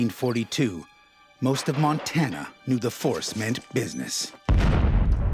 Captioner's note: explosions